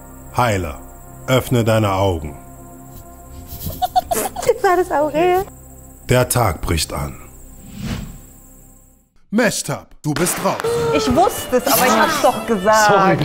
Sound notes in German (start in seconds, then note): 3.4 Frau, lacht; 7.1 Spannungsvolle Musik